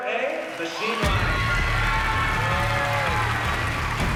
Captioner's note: cheering and applause